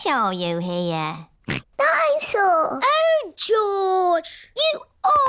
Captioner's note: snorts